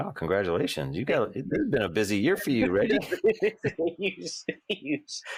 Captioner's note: both laugh